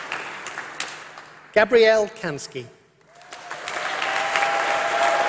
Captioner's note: applause